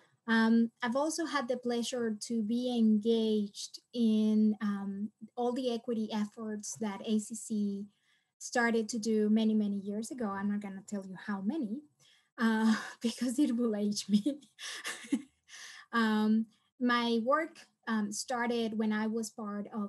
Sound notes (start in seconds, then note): 14.1 laughs